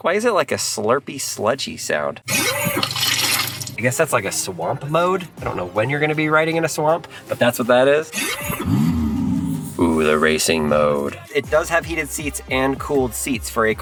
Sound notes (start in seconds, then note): 2.3 car engine humming; 2.4 water sloshing; 8.5 car engine humming; 8.5 car engine roaring